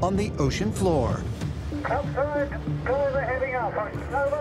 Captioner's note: speaking over radio